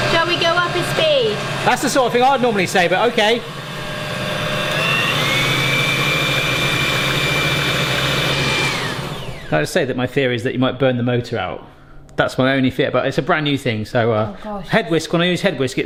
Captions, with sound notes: - Shall we go up a speed? - That's the sort of thing I would normally say, but okay. (mixer whirring intensifies) (mixer shuts off) Can I just say that my theory is that you might burn the motor out. That's my only fear, but it's a brand new thing, so- - Oh gosh. - Head whisk.